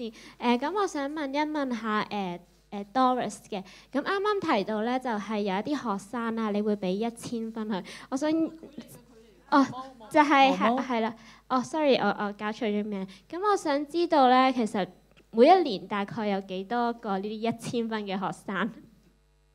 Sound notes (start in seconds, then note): 9.2 Cantonese